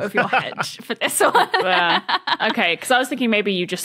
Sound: laughs

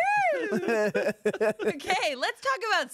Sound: everyone laughs

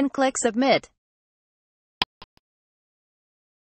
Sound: click sound

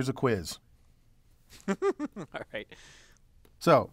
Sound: laugh

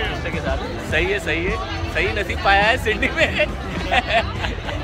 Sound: laughing

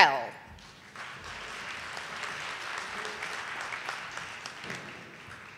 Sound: audience applauding

